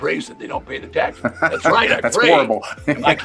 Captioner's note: laughs